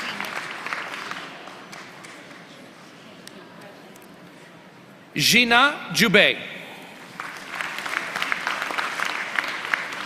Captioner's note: applause